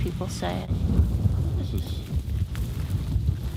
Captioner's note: wind blowing